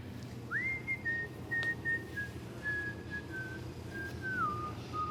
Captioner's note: man whistling